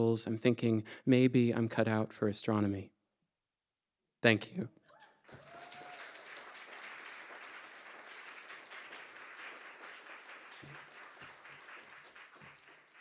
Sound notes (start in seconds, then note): 5.0 audience applauding